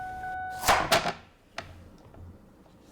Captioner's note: knife blade on cutting board